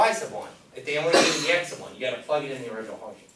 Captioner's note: cough drowns out speaker